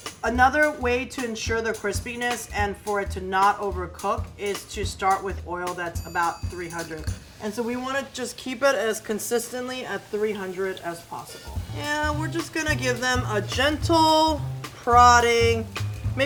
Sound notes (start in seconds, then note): 7.4 potatoes lightly sizzling